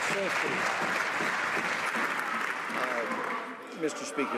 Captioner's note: some Applause